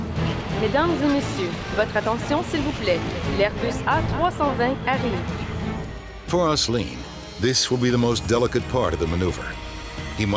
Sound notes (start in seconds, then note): 0.6 reporter speaking in French